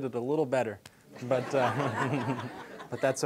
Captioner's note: audience laughing